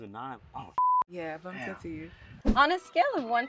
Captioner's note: beep